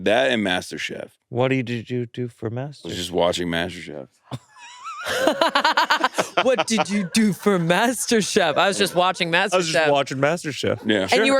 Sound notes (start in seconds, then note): 4.3 all laughing